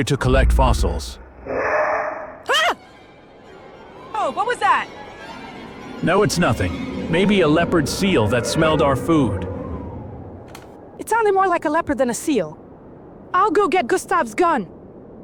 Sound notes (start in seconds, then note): 1.4 scream of terror